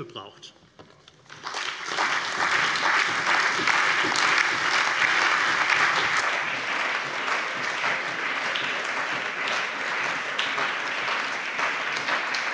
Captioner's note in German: Anhaltender allgemeiner Beifall